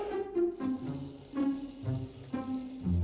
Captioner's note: rice dropping